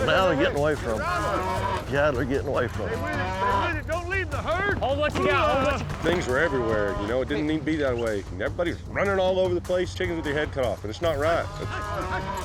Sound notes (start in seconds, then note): 2.7 mooing